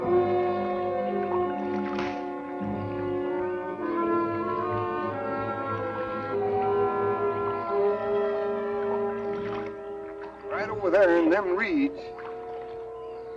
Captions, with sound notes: (smack) - Right over there in them reeds.